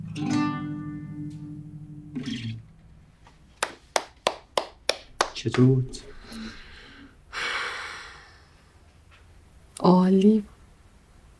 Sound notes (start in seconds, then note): 0.0 guitar playing; 3.5 clapping hands